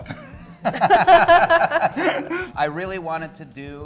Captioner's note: laughing